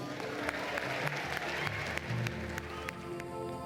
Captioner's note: applause